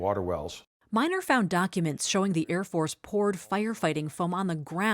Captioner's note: voice-over